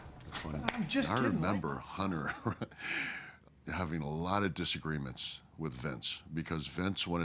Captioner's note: laugh